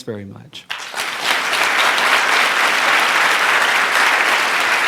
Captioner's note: audience applauding